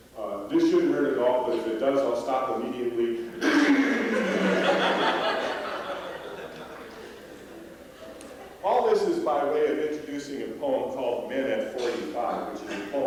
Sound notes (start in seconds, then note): 3.6 mimics grinding sounds; 3.6 laughter